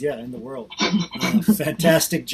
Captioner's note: laughing